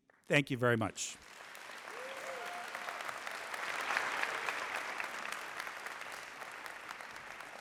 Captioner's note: applause